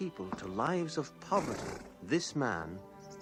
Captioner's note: horse snorts